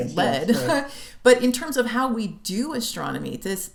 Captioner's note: laughter